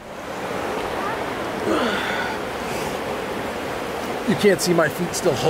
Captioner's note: river babbling